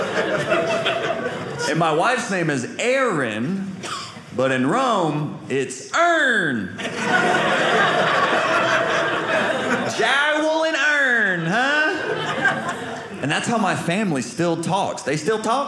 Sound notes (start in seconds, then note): 6.8 audience laughing